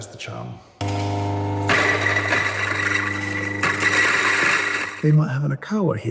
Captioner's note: grinder grinding